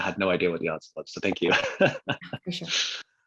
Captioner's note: laughs